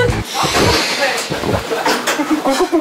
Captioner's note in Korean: +2꿀꺽